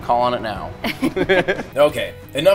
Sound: laughing

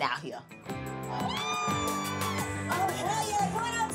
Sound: cheering

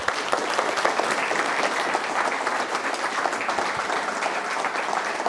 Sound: applause

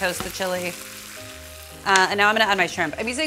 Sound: sizzling

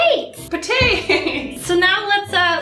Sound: laughs

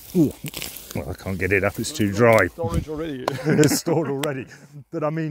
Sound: laugh

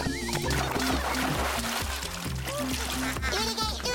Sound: splash!

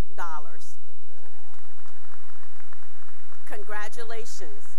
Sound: cheering and applause

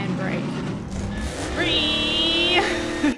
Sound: accurate car acceleration sound

